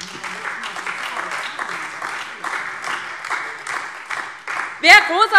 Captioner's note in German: Beifall DIE LINKE, SPD und Freie Demokraten